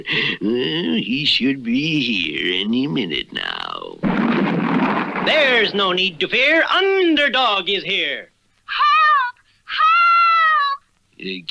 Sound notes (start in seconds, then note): 4.0 crash!